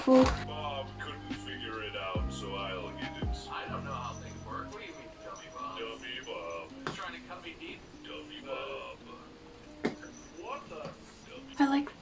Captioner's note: markiplier video playing in the background